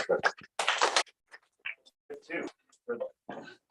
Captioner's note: applause